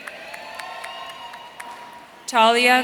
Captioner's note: audience cheering